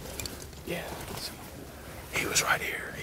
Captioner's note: whispering